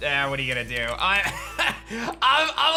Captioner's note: chuckles